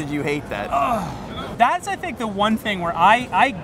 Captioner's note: groaning